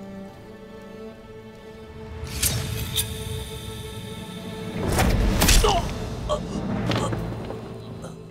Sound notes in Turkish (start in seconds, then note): 2.3 Hançer çekme sesi; 5.2 Hançer saplanma sesi